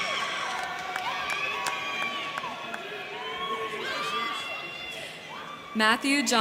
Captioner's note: crowd clapping; crowd cheering